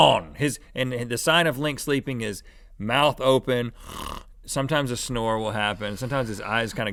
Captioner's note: snores